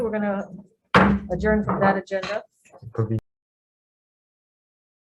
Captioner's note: hammers the table